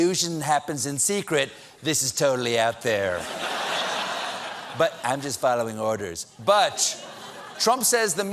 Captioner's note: laughter